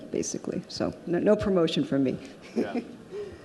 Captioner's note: laughs